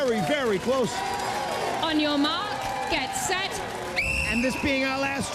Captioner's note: whistle blows